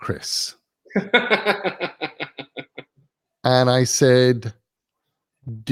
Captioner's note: laugh